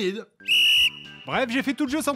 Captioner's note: whistle